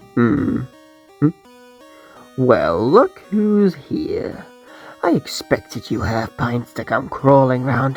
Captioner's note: chuckle